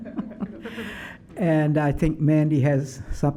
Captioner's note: laughs